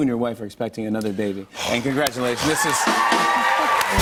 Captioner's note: cheers and applause